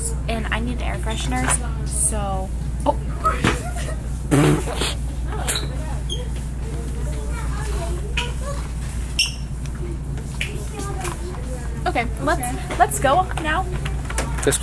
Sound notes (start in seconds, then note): 3.2 everyone laughing quietly; 3.3 exclaiming